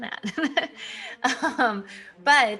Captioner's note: laughing